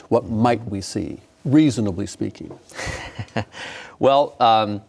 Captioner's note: laughing; laughing